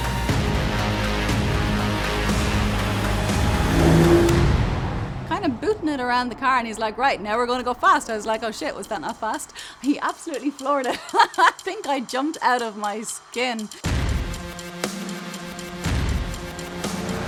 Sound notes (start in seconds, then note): 10.4 laughs; 14.2 upbeat music